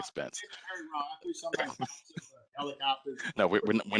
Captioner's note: laughter